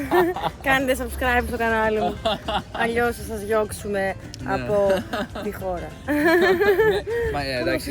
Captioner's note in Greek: γέλια; γέλια